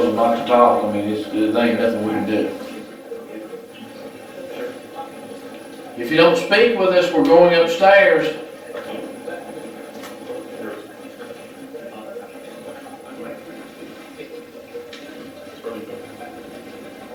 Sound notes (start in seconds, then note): 3.5 static playback transmitting